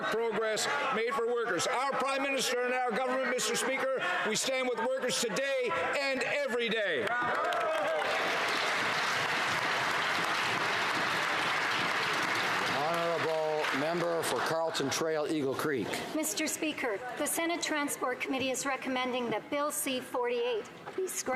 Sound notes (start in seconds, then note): 11.7 some Applause